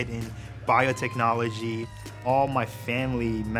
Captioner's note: cheering